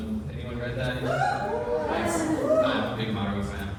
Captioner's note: whoops and cheers